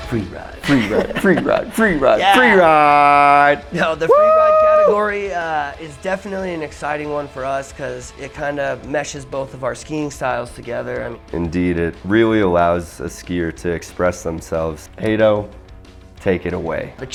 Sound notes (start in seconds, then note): 3.7 screams in excitement